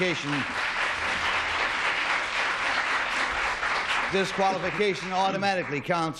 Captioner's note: applause